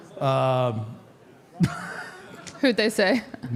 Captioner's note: Mark laughs